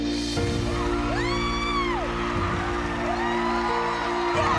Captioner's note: cheering and applause